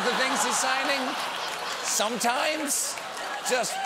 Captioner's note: laughter